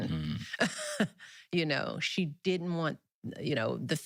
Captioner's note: chuckles